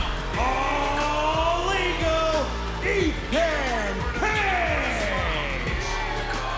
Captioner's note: crowd booing